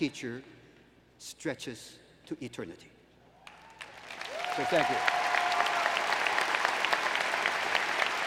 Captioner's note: applause